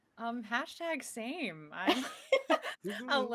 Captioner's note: laughs